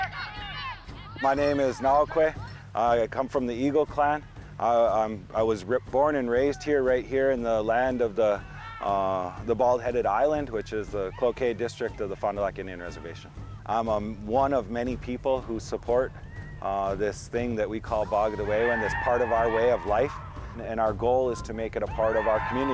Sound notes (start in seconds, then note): 2.5 people shouting